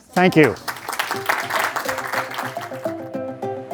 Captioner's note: applause